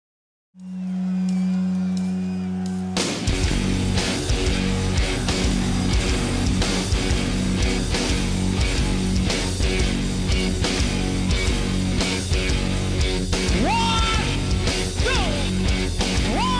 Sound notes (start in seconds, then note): 0.6 amplifiers humming; 0.6 audience cheering; 3.0 aggressive rock music